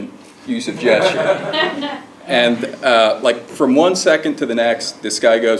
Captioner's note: laugh